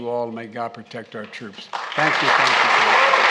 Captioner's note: applause